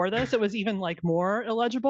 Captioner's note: laughing